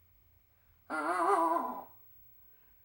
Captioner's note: weeping